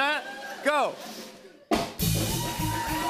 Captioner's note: cheers and applause